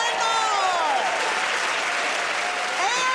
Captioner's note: cheers and applause